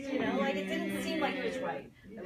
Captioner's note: audience affirms